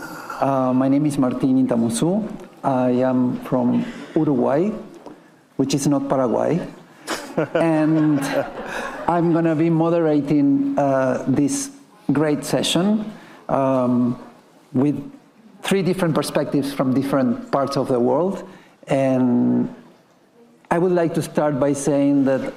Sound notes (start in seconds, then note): 7.1 panelists and attendees laughing